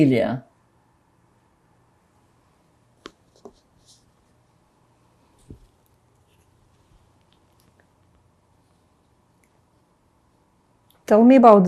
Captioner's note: pauses 10 seconds